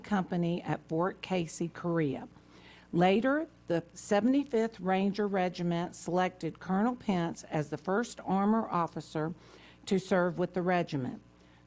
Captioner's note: off mic